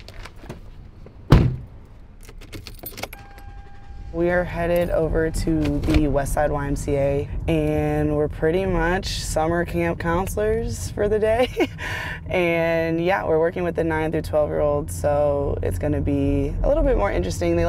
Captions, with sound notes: (car door slams) (car keys dangling) - We are headed over to the Westside YMCA and we're pretty much summer camp counselors for the day. And, yeah, we're working with the 9 to 12-year olds so it's gonna be a little bit more interesting,